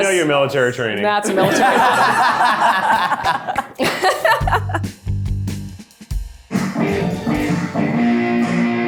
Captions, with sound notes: - You know your military training, - That's military. (everyone laughs) (upbeat music)